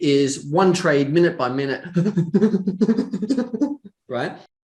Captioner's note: humming